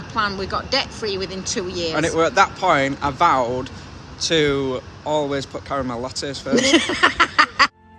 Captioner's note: laughing